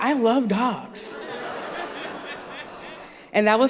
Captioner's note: laughter